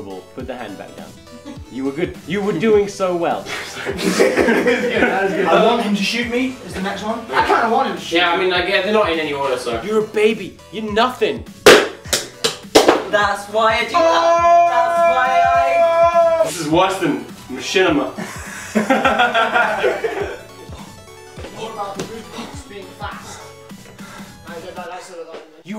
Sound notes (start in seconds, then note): 3.5 laughter; 15.6 screaming; 18.2 laughter; 20.3 exhausted noises